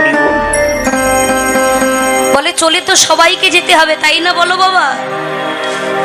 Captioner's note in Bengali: ঘণ্টা